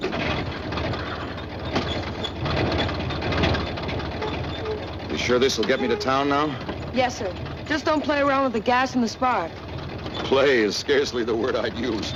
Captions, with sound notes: (engine starting) You sure this will get me to town now? Yes, sir. Just don't play around with the gas and the sp.